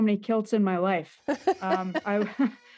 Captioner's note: laughter